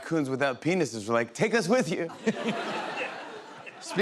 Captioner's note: laughter